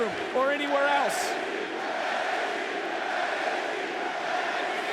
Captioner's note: audience chanting